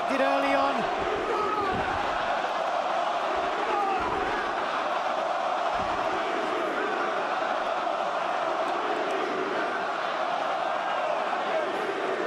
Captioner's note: crowd cheering